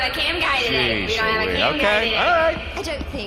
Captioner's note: defensively